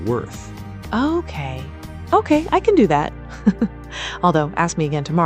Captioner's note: laughs